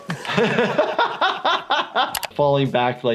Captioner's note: doctor laughs